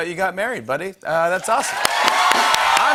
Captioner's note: cheers and applause